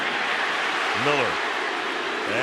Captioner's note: crowd clamoring